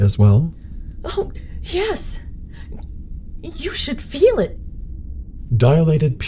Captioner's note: gulp